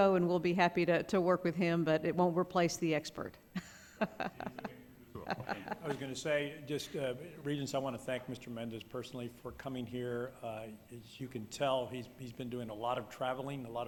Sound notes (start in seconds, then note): 5.1 laughs